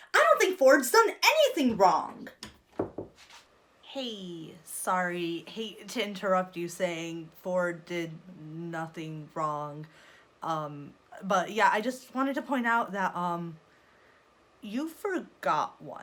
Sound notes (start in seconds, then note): 2.7 knocks on door